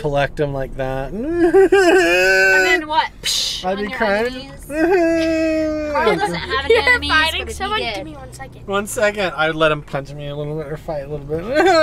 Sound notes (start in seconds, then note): 1.1 imitates crying; 11.6 imitates crying